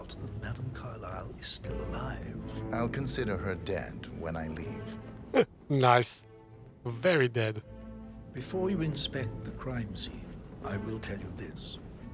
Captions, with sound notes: [Laughs] Nice. Very dead.